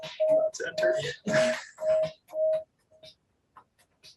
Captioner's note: feedback echoing